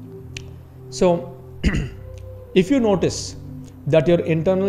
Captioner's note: clears throat